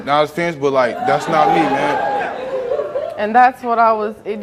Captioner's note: audience hollers